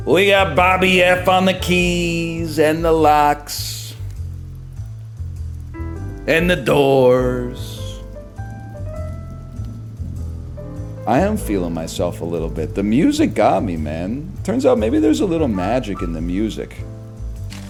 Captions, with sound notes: We got Bobby F on the keys and the locks... And the doors... [Normal voice] I am feelin' myself a little bit. The music got me, man. Turns out maybe there's a little magic in the music.